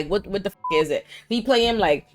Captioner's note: beep